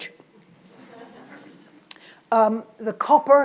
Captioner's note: audience laughs